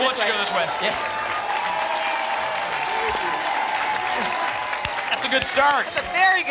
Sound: applause and cheering

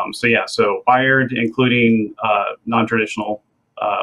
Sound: none

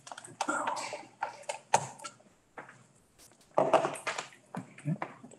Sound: equipment shuffles

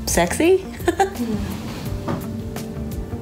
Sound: laughs

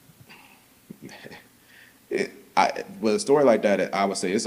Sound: softly chuckles

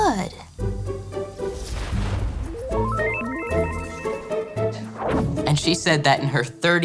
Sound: loud whooshing; electronic chiming

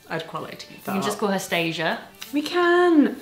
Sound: none

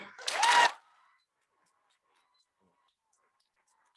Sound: audience cheering

